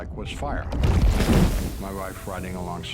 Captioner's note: fire explosion